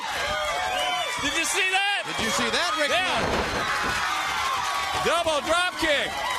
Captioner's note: crowd cheering